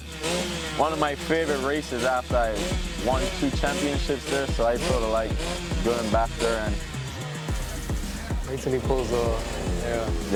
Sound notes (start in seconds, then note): 0.8 bike revs; 6.8 revs stop